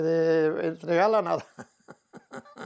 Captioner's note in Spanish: ríe